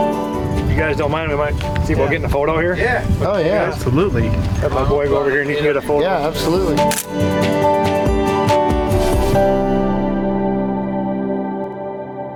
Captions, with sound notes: - You guys don't mind if I, see about getting a photo here? - Yeah. Oh yeah. - Absolutely. - Have my boy go over here and get a photo? - Yeah, absolutely. (camera snap) (music slowly fades out)